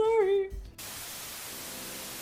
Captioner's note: TV static sound